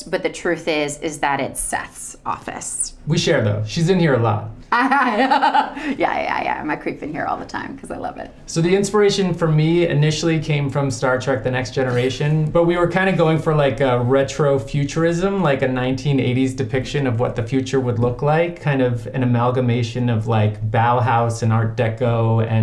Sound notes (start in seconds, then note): 4.8 Bryce laughs